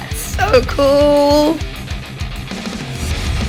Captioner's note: squeals